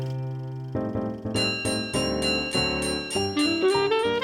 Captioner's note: trolley bell ringing